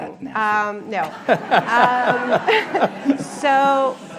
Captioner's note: laughter